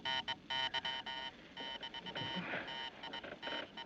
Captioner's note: Zumbido, clicando em Continuar